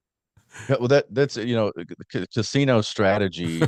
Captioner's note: laughs